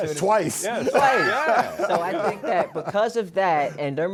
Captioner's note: laughs